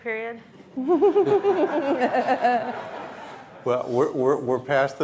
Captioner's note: audience laughing